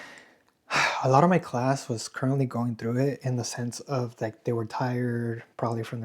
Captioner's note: sighs